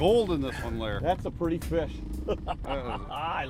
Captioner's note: laughs